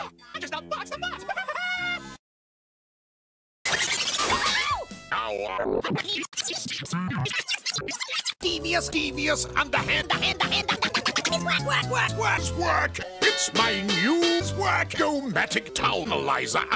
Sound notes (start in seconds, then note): 3.5 audio stutters